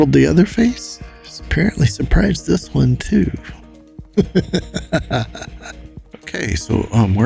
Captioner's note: laughs